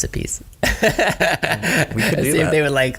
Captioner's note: laughter